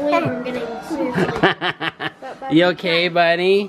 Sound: laughing

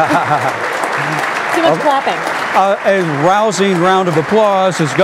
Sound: laughing

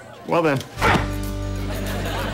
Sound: grunting

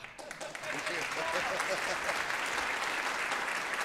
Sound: applause

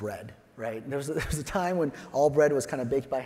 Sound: chuckles

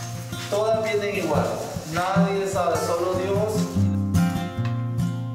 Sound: speaking foreign language

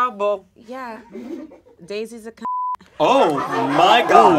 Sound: beep; audience laughs

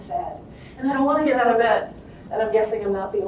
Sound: whiney voice

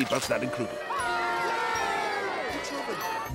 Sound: cheering

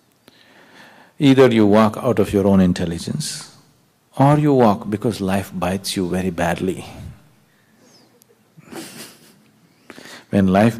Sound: laughs

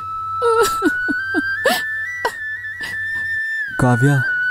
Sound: crying

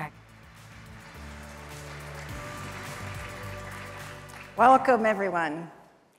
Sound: upbeat music; audience applauds

